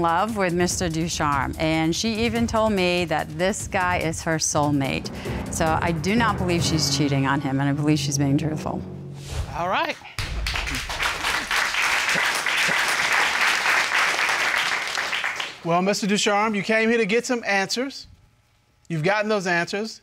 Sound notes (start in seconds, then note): 10.2 audience applauding